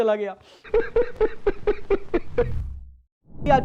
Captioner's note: laughs